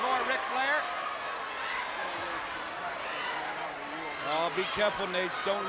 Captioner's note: audience cheering